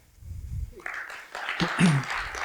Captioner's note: applause